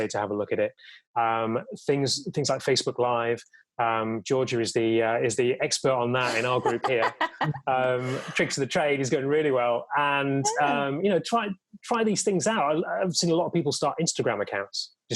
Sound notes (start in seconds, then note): 6.2 laughs